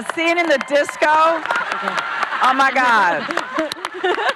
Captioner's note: audience cheer; laughing